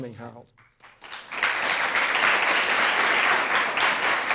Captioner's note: audience applauds